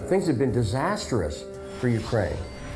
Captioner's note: none